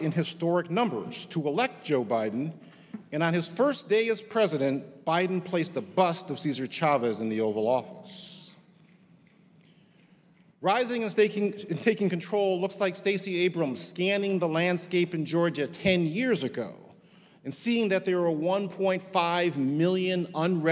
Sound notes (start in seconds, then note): none